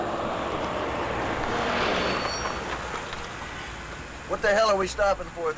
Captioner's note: truck screeches